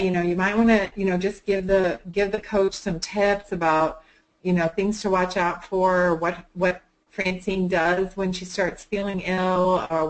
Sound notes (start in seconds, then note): none